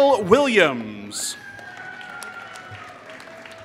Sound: applause

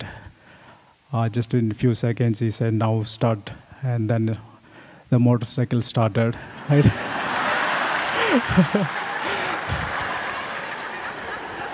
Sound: laughter

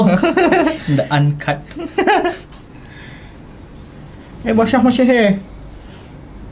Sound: laughs

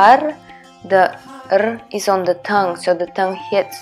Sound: tongue trill

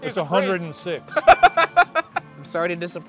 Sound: laughing; bell dinging

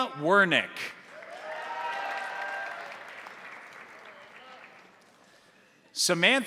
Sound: crowd applauding; crowd cheering

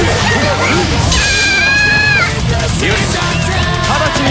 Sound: KO Scream

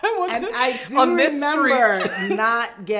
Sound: laughs

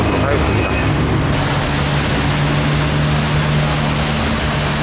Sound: sudden rain in bangkok

